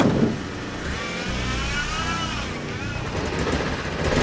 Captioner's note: van engine whirring; motorbike revving